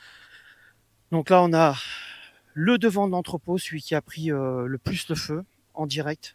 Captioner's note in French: soupir